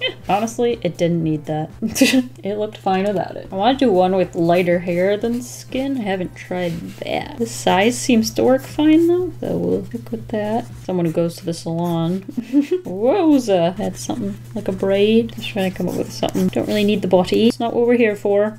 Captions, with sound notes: Honestly, it didn't need that, it looked fine without it. I want to do one with lighter hair than skin, I haven't tried that. The size seems to work fine though so we'll stick with that. Someone who goes to the salon. [Light laugh] Wowza! Add something like a braid. I'm just trying to come up with something. I don't really need the body, it's not what we're here for.